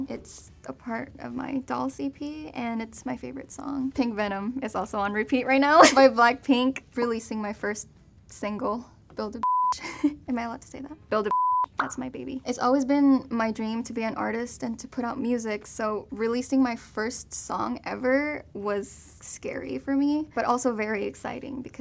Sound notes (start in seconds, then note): 5.8 laughs; 9.4 beep; 9.7 chuckles; 11.3 beep